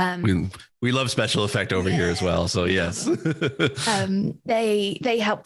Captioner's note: laughs